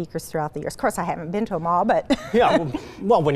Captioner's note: laughs